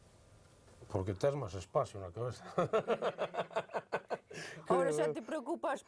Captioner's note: laughs